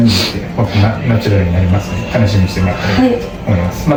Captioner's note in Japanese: 鼻息